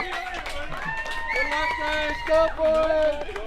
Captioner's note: crowd cheers